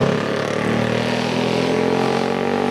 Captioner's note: motorcycle roars